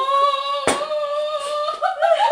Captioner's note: laughing; coughing